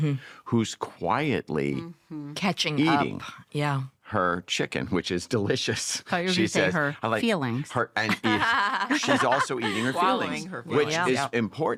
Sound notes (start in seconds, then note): 8.0 laughter